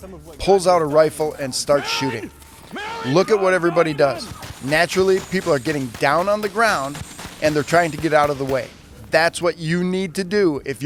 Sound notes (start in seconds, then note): 2.2 shooter yelling